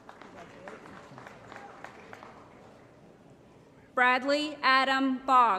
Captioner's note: applause